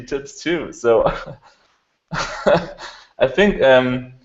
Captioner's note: laughs